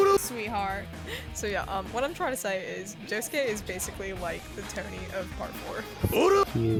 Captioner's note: giggling